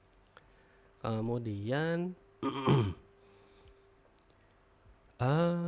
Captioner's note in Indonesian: berdehem